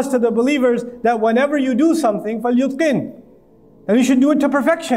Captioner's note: Arabic